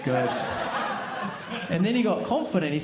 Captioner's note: audience laughing